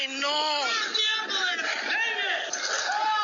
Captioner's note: people shouting